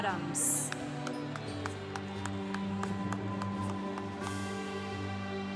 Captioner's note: congregation applauding